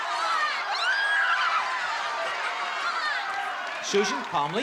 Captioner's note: screams